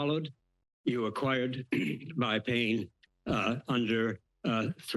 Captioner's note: clears throat